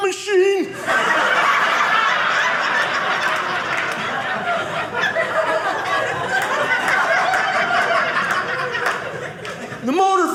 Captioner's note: audience laughing